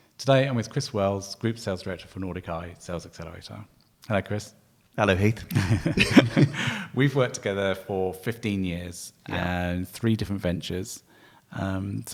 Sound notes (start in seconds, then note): 5.5 laughing